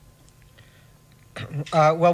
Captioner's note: clears throat